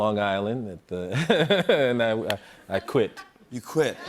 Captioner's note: laughs